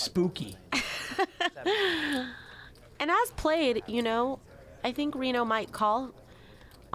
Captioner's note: laughs